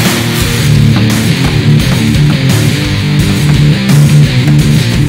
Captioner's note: hammer knocking